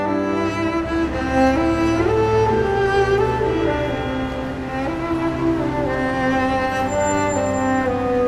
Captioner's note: city traffic in background